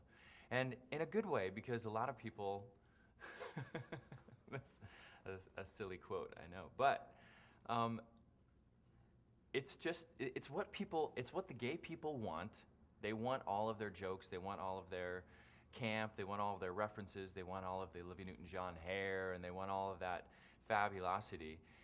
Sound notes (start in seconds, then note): 3.2 laughing